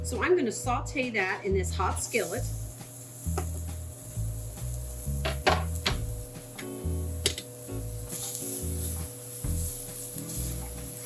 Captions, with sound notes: so I'm gonna saute that in this hot skillet (onions sizzling)